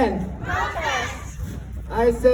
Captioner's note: crowd